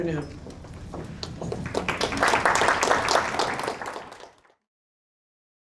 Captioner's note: applause